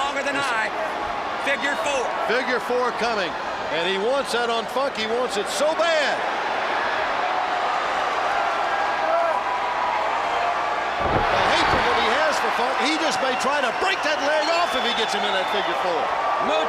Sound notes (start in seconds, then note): 6.4 crowd cheering